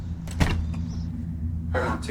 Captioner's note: door clatters